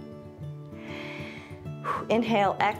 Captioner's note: inhales and exhales